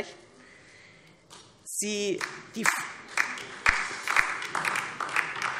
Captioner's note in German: Beifall DIE LINKE und vereinzelt SPD